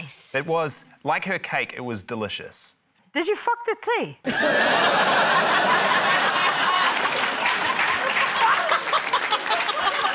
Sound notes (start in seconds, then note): 4.2 laughter; 6.2 applause